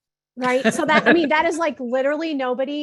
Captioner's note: chuckles